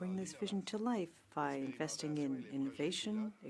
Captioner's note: speaking French